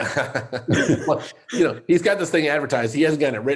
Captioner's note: laughs